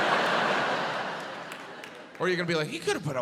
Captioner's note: audience laughs